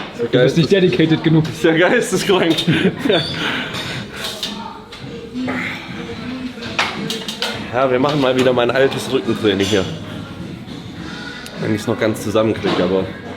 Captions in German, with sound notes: du bist nicht dedicated genug. Ja, geisteskrank. [gelächter] [räuspern] Ja, wir machen mal wieder mein altes Rückenträne hier, wenn ich es noch ganz zusammen krieg, aber